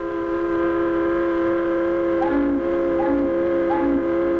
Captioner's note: horns honking